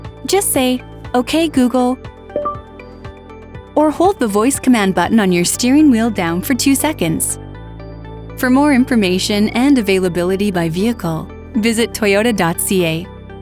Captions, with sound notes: Just say okay Google. (beeping) Or hold the voice command button on your steering wheel down for two seconds. For more information and availability by vehicle, visit toyota.ca.